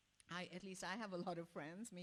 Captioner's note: none